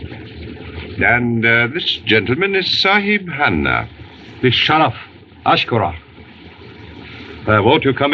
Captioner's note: speaking Native Language